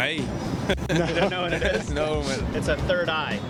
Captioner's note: laughing